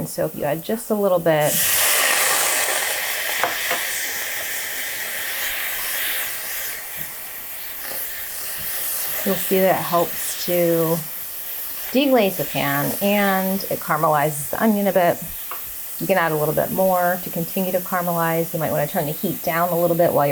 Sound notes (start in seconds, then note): 1.7 water sizzling